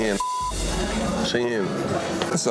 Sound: beep

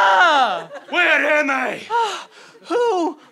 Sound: Scottish accent

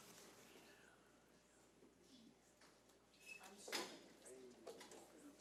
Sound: none

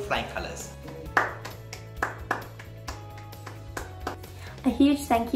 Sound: attendee clapping

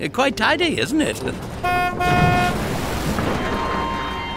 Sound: horn honking

